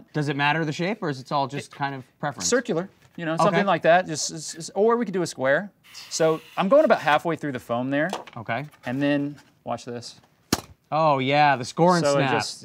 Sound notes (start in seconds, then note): 10.5 foam snaps